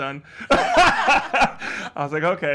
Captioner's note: laughs